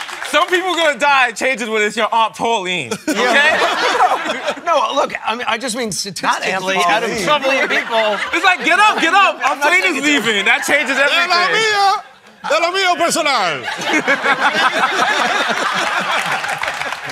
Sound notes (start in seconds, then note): 2.9 laughter; 11.7 speaking spanish; 13.6 laughter